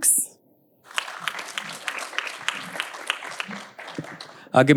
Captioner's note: audience applauding